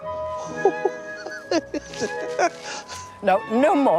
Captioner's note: Mr. Osborne laughing